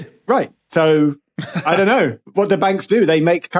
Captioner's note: laughs